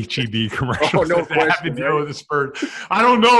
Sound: laughs

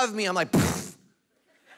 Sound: lip sputtering; congregation laughing

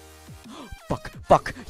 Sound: gasps

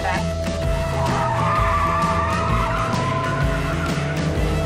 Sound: tires squeal, engine revs

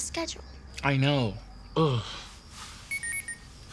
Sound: moans

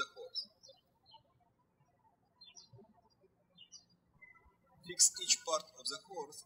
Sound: birds chirping

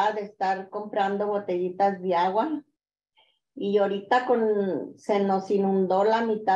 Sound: continues speaking in Spanish

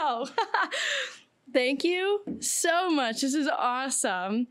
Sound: laughing

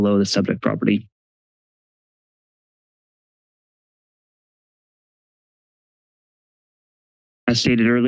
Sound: silence

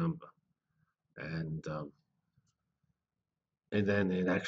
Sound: pause

